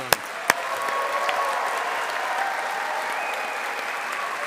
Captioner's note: audience applauding